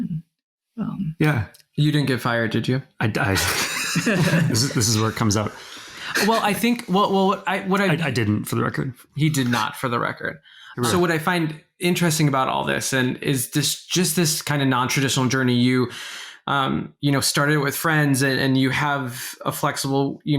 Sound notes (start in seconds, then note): 3.3 both laughing